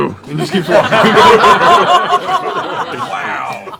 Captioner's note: laughter